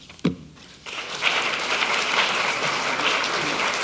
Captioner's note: applause